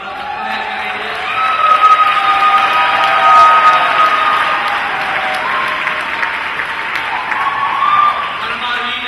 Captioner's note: applause and cheering